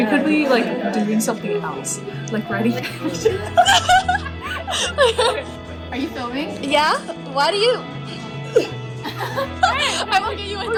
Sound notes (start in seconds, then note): 2.7 laughing; 8.4 chokes